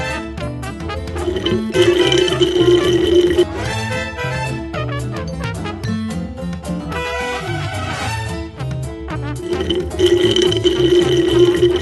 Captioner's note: long slurping sound